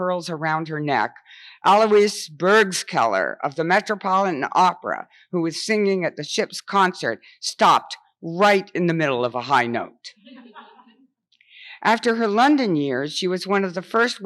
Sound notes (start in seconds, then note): 10.3 audience laughs